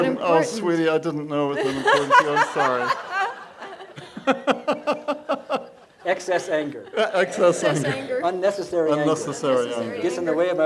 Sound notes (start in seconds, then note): 1.6 laughs